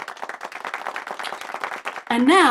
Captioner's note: people clapping